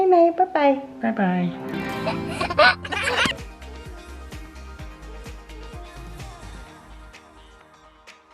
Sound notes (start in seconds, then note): 1.9 laughs; 3.8 upbeat music plays